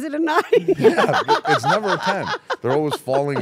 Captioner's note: laugh